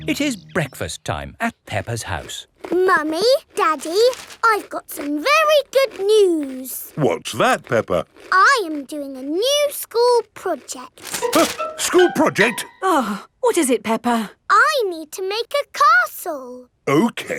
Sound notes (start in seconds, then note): 11.4 gasps; 13.0 sighs